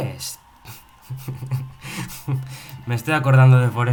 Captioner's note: laughs